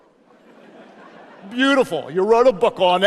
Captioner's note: audience laughs